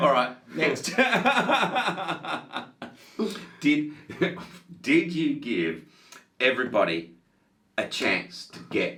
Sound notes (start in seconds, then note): 1.5 laughing continuing